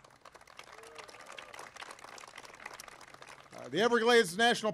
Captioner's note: applause